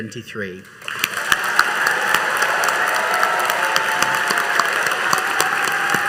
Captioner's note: all applauding and cheering